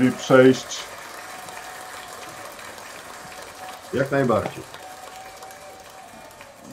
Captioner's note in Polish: Aplauz